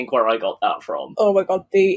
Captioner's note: none